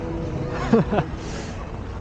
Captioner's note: laughing